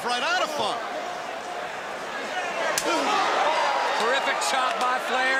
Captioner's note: crowd chatter